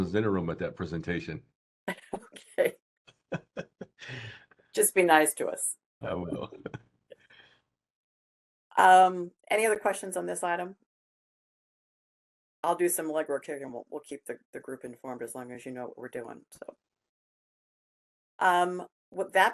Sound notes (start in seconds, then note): 3.3 laughing; 8.0 laughing